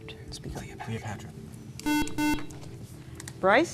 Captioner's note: beeping